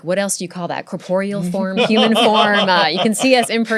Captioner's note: laughter